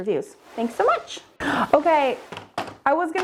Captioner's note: air whooshes